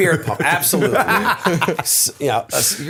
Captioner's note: laughter